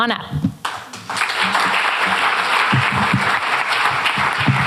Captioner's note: applause